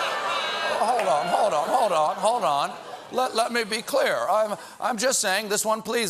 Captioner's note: audience reacts